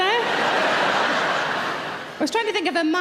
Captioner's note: audience laughing